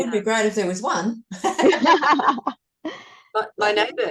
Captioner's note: all laugh